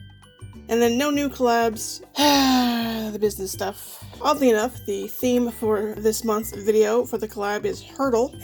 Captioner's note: sighs